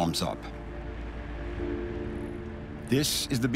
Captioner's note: water rushing